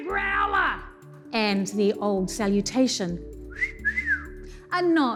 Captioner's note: wolf whistles